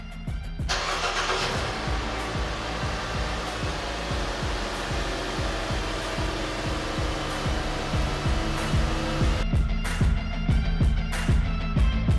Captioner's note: car engine starts